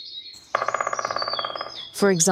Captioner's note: woodpecker drilling